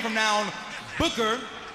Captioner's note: crowd chatter